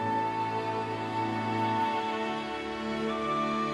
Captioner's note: none